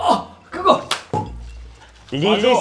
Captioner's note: clap